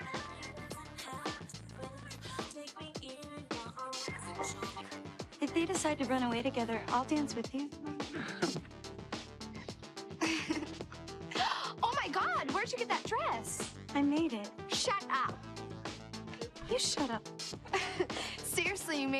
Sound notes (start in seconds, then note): 0.2 disco music; 10.2 awkward laughter